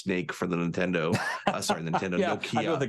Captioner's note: laughs